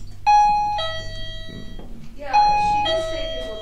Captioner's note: alarm beeping